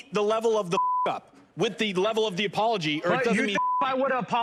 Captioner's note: beep